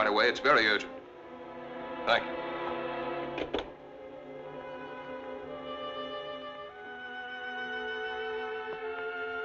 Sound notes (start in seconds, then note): 3.3 receiver thumping; 3.9 suspenseful music